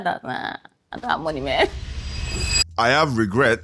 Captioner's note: laughs